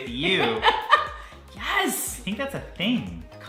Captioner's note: laughing